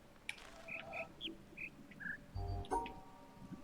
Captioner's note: bird chirps five notes